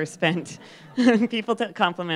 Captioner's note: laughter